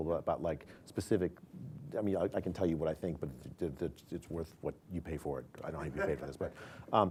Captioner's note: laughter